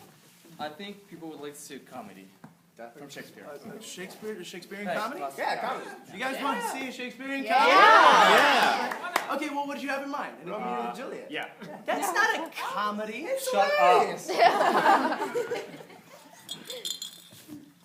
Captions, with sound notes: I think people would like to see a comedy. - From Shakespeare. - Shakespeare? - A Shakespearian comedy? - Yeah, a comedy. You guys wanna see a Shakespearian comedy? (Cheering) - OK. Well, what did you have in mind? - Romeo & Juliet. That's not a comedy! - Shut up. - It's hilarious!